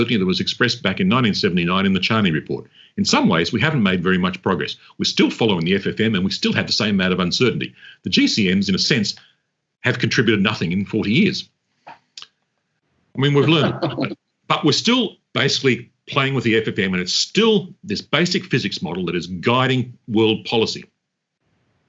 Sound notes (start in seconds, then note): 13.2 chuckles